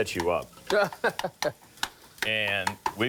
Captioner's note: laughs